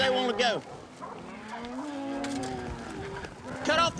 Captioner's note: mooing